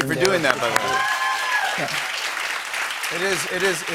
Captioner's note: cheers and applause